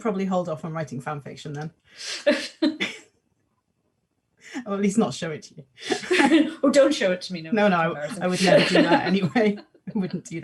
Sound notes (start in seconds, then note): 2.5 both laugh